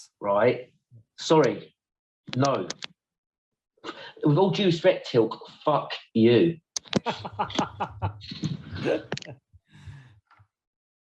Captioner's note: laughs